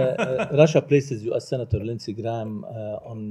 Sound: laughter

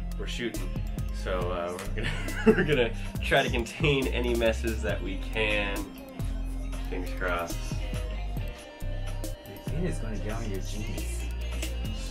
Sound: laughs

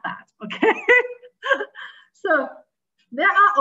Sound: chuckles

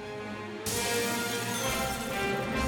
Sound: glass shatters, cash register chimes

